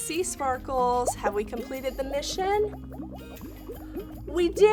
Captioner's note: water bubbling